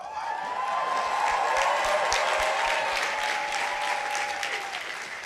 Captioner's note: audience applauding